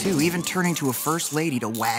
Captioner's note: sirens blaring